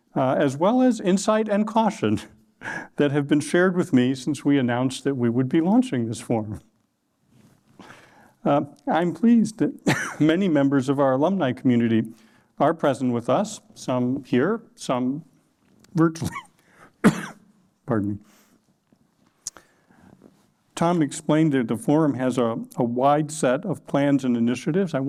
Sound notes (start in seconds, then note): 16.9 coughs